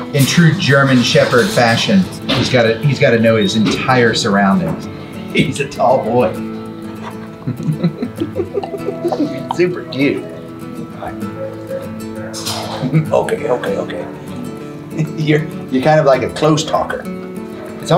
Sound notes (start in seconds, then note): 6.8 laughs